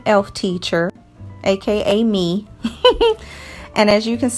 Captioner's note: giggles